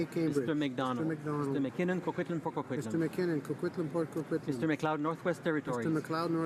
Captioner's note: speaking in french